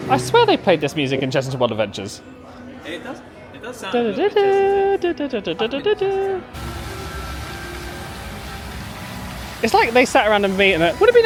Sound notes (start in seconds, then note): 4.8 singsongs; 6.5 dramatic music; 6.5 water rushing